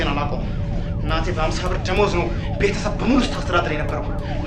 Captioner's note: police Sirens